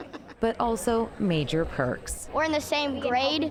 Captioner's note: laughter